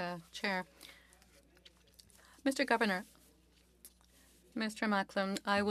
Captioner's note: speaking French